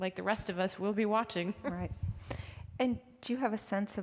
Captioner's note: chuckling